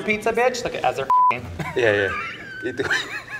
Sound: beep; everyone laughs

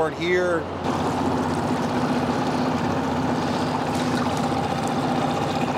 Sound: boat motor whirs

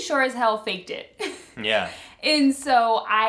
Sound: laughs

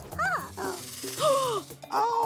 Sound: gasp

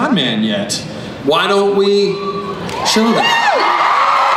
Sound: crowd cheers

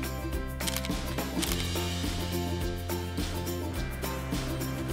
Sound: camera shutter

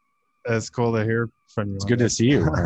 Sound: laughs

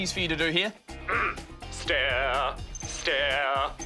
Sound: clears throat

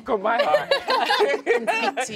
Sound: laughter

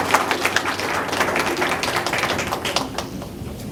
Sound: applause

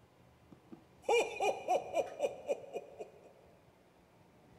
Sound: laughs

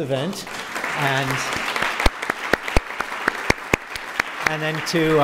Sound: applause

